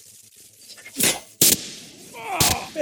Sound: sound of short circuit

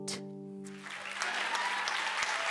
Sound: applause

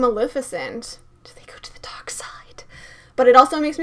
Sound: whispering

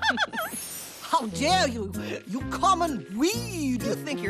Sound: laughing

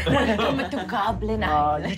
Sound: laughing

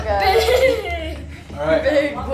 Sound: laughing

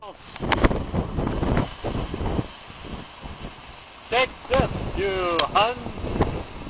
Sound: wind whipping; chattering

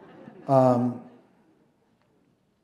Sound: laughter

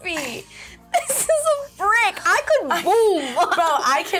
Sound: laughs

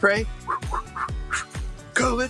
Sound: puffs air

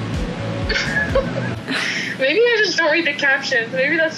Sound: laughs

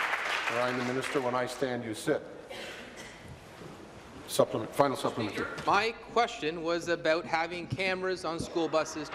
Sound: applause

